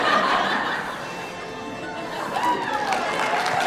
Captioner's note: laughter